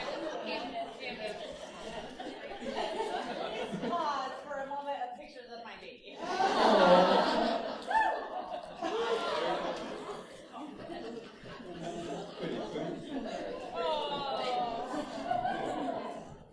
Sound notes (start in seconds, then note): 0.0 laughter; 6.2 laughter; 6.2 background chatter